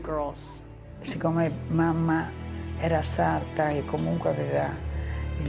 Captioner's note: speaking in foreign language